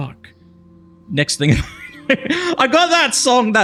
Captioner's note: laughs